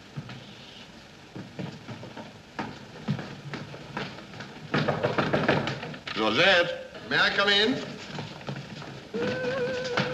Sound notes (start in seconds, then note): 4.7 knocking on door; 9.1 Georgette humming in the background